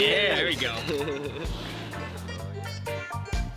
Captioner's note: riders laughing; reggae music